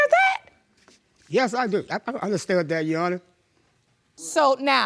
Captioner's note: voice breaking